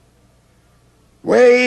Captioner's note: calling